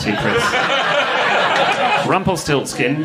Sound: audience laughing

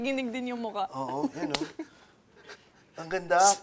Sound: laughs

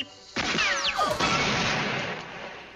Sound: boom

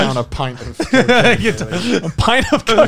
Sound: all chuckling

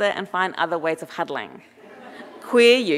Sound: audience laughing

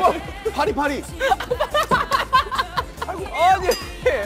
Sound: explodes laughing to himself

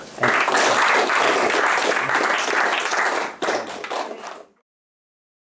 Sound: applause

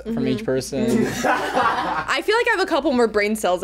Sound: group laughs

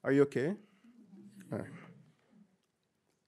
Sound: audience murmuring

